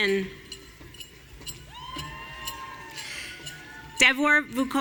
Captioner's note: audience cheering